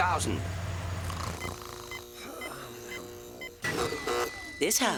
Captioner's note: snoring